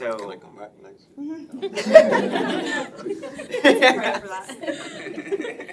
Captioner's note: laughing